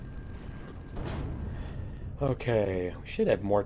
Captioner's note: turrets firing; explosion